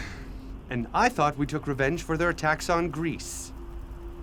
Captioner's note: Philotas gasping